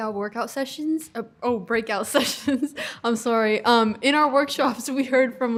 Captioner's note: giggle